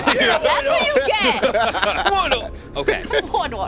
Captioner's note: all Laugh